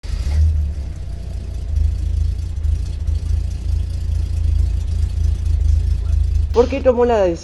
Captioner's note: car engine sound